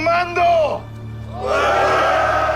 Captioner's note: all exclaiming